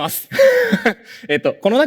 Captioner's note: laughs